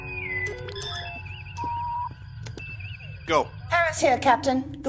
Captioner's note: none